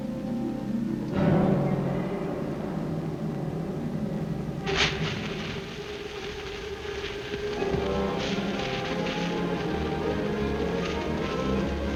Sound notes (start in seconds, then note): 4.6 fuse hissing